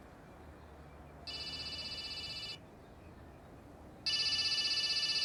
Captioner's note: phone ringing